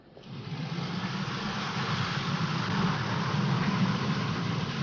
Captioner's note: vehicle whirring